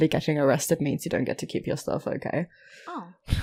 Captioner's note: Small chuckle from Rik